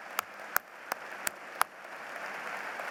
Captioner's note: applause